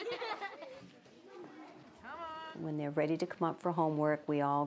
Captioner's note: students giggling